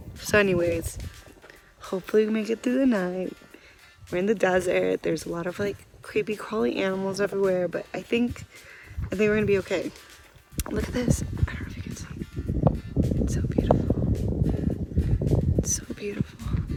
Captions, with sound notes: So anyways, hopefully we make it through the night. We're in the desert, there's a lot of like creepy crawly animals everywhere but I think they were going to be okay Look at this! I don't know if you can see. [whisper] It's so beautiful! It's so beautiful!